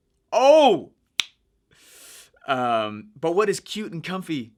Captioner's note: snaps fingers